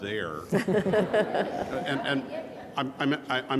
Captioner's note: audience and speakers laughing